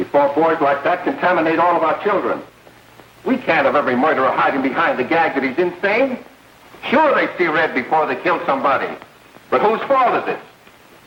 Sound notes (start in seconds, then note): none